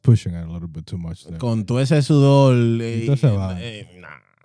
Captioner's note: speaking In Foreign Language